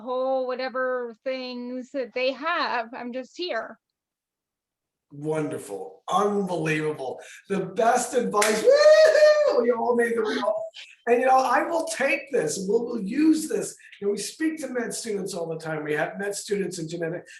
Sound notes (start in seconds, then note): 8.4 woohoo!